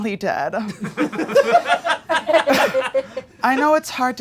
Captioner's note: audience laughing